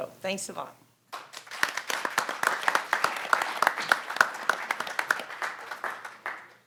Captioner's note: audience and panelists applaud